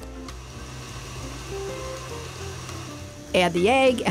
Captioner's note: mixer whirring